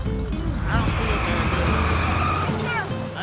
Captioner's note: tires squeal